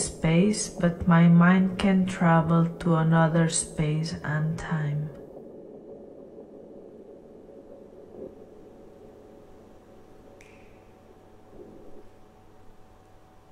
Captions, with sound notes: but my mind can travel to another space and time. (WHITE NOISE FADES) (CLICK)